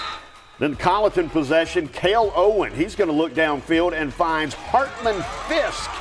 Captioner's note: whistle blowing